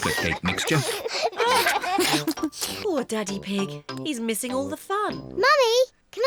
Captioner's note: laughs